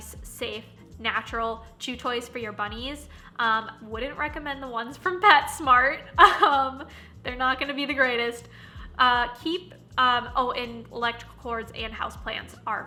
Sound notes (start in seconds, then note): 6.2 laughing